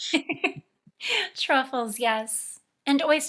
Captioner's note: laughing